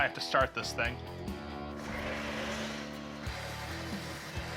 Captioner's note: grinding